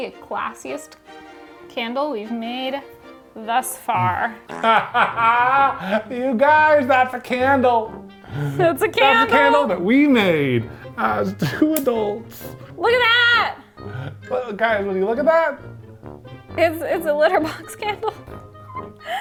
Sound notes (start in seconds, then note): 4.4 fart noise; 4.4 laughs; 17.3 laughs